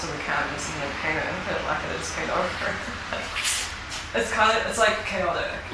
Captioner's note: laughs